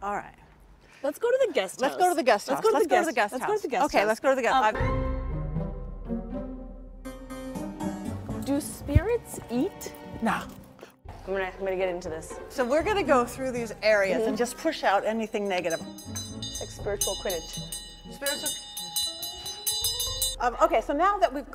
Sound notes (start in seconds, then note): 15.4 bell ringing